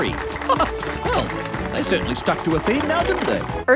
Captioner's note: chuckles